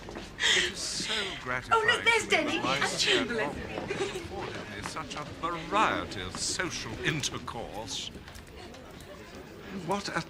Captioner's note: people talking